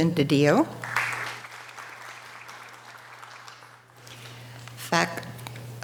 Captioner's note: audience applause